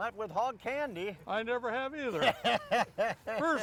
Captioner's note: laughs